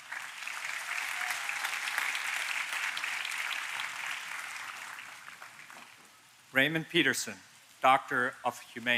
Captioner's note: applause